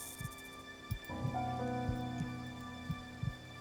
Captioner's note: heart beating